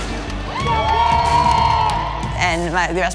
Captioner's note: crowd cheering